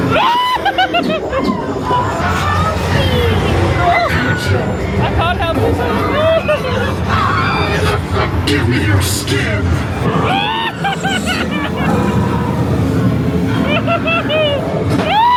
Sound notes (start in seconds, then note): 0.0 screaming; 6.6 yelps; 7.3 spooky music; 10.1 spooky music; 10.2 screaming